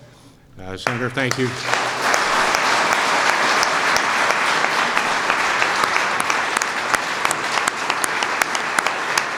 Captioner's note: applause